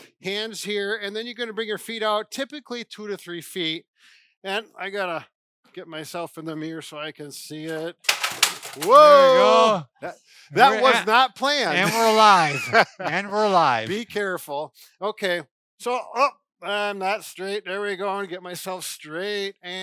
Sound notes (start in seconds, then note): 8.0 items falling down; 14.1 laughing